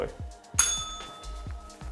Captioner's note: bell rings